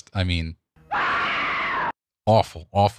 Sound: screaming

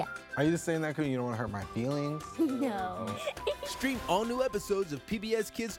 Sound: laughing

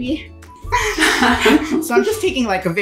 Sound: laughing

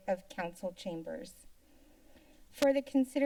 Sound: silence

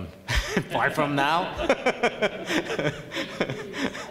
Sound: laughing

